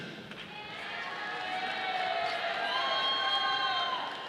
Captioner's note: audience applauding